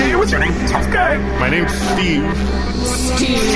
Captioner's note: the gossip cube hums at a higher frequency